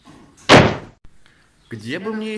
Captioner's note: door slam